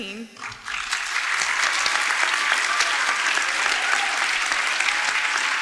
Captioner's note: crowd clapping and cheering